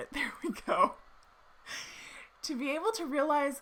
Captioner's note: laughing